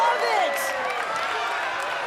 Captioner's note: crowd cheers